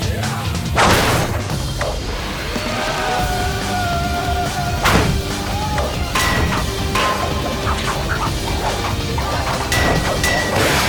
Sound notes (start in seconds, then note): 0.1 henchmen growls; 2.3 henchmen screaming; 4.8 poles clanking and whooshing